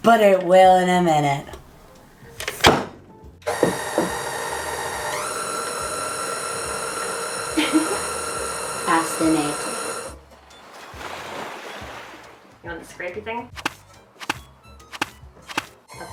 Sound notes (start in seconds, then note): 3.4 mixer noise; 7.5 giggles; 13.5 splashing noises